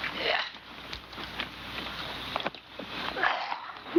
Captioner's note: chirping